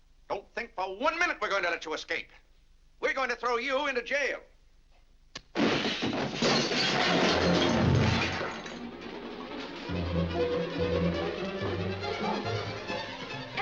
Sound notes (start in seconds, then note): 5.5 crashing & shattering; 8.8 intense dramatic music